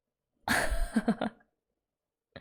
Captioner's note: laughs